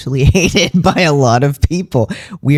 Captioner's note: laugh